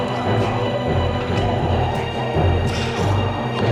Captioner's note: dramatic menacing music; punches thudding